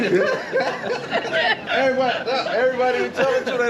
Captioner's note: laughing